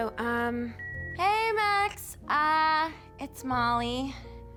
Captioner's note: line beeps